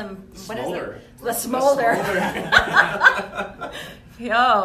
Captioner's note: laughs